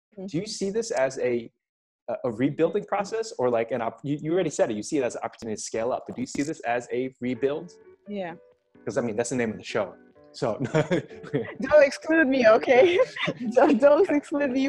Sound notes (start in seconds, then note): 10.6 laughs